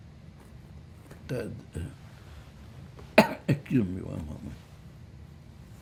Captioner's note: coughing